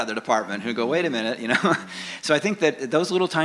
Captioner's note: chuckles